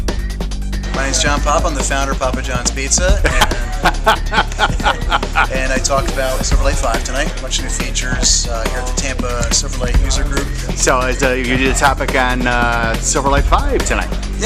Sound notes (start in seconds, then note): 3.1 laughter